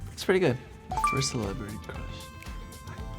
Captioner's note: beeps